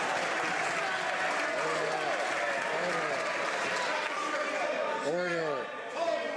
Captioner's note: some Applause